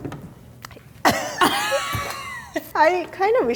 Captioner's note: laughing